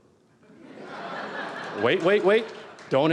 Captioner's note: audience Laughter